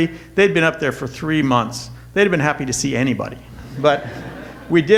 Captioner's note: audience laughter